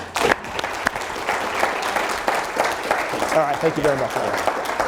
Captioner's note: audience applauds